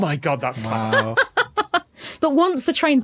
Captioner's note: laughs heartily